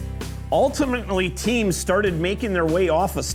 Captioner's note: voiceover